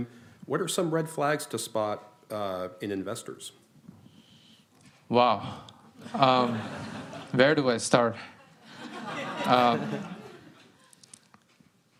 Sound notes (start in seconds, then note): 6.0 laughter